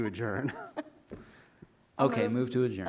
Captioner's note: everyone laughing